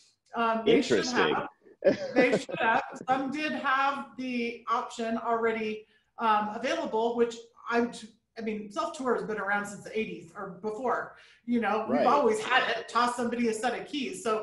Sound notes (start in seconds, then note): 1.8 chuckling